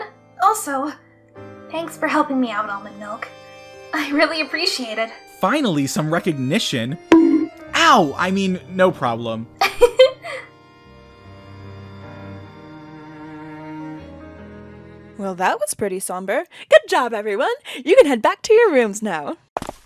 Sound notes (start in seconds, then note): 7.1 bonk!; 9.7 giggles